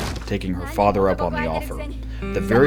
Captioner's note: door getting kicked in; woman yelling indistinctly in japanese